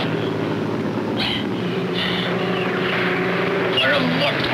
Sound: panting

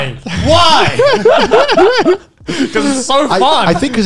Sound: laughing loudly

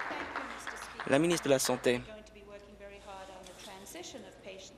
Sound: applause

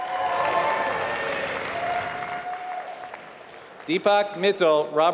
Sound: applause

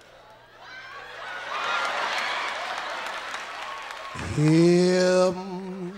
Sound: audience laughs and cheers louder

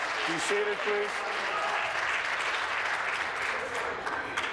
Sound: some Applause

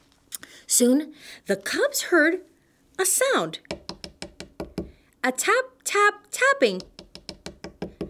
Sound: tapping; tapping

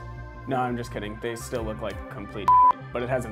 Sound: beep

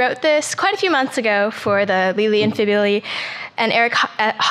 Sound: mutters

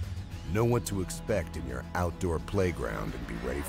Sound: voiceover

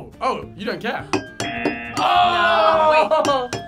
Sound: buzzer

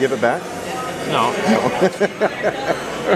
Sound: laughing

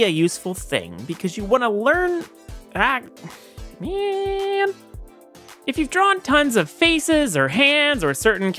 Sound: sigh

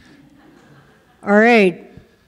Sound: audience chuckles

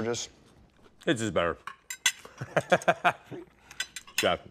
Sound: laughing

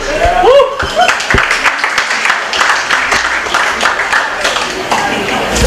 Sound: applause

